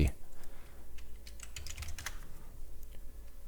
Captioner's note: typing